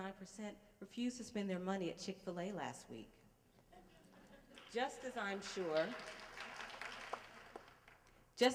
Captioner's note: laughter and applause